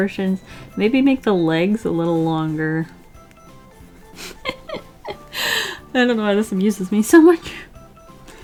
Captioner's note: laughs